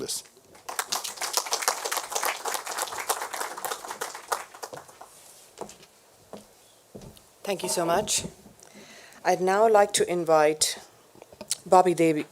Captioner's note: applause